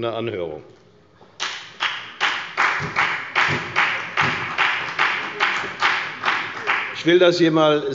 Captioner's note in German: Beifall bei der FDP und bei Abgeordneten der SPD